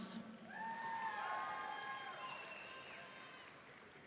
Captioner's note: audience cheering